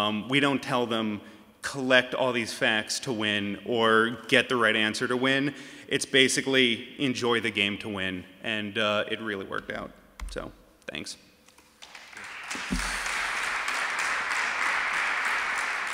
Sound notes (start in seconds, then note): 11.8 applause